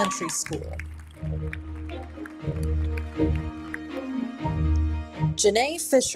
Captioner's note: audience cheers; audience applauding